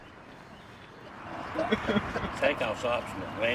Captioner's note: all laughing